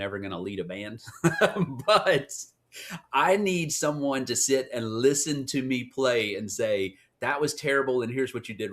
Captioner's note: laugh